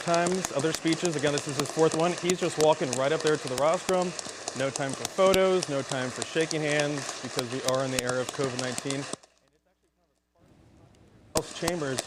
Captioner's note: applause